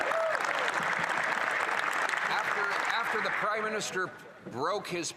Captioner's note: applause